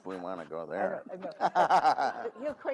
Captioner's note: all laugh